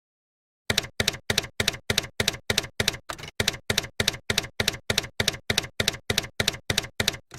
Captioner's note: typewriter keys clacking